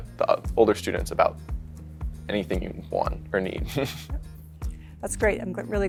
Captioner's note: chuckles